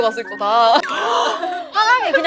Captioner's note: gasp